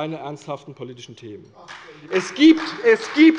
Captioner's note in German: Beifall bei der CDU und dem BÜNDNIS 90/DIE GRÜNEN